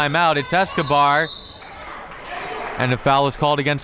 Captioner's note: whistle tweeting